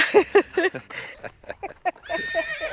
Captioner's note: both laughing